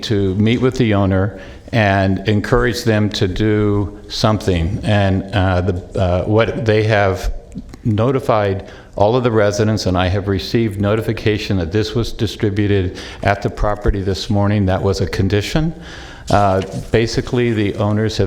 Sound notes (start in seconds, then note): none